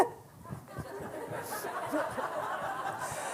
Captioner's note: laughter